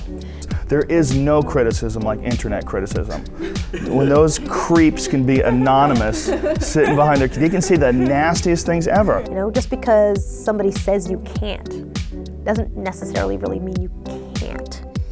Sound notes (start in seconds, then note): 3.1 laughs